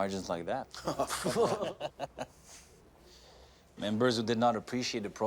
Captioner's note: men laugh